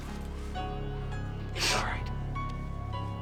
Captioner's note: sniffing